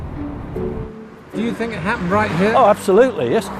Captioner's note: voiceover